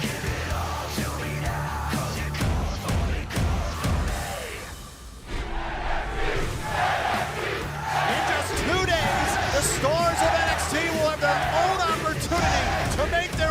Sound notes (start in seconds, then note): 7.2 fans chanting